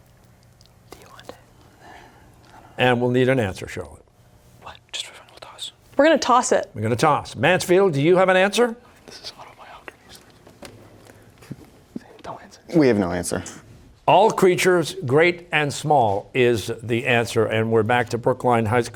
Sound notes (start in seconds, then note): 4.0 whispering; 9.6 whispering